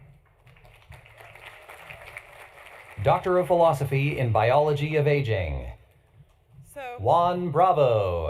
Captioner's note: applause